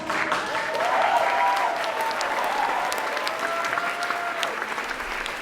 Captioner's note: clapping